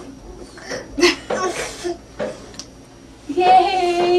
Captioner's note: laughter